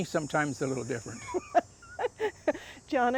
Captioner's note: laughing